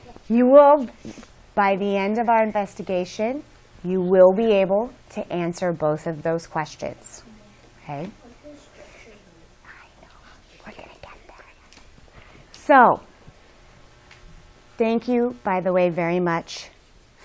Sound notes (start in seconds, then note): 10.3 whispers